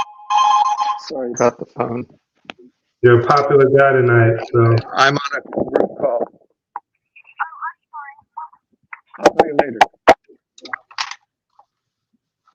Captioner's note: phone ringing